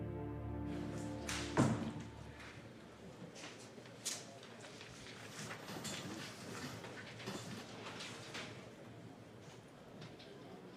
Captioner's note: indistinct chatter in background